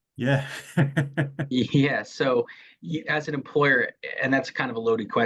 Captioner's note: laughs